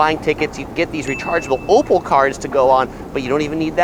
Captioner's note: bell dings